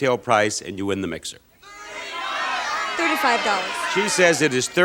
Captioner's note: audience shouting